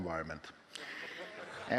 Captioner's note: laughing